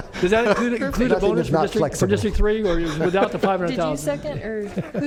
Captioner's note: laughter; laughter